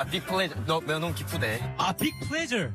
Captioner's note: speaking in Korean